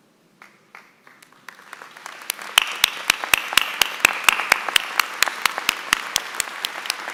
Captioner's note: applause